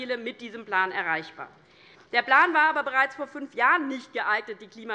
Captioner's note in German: none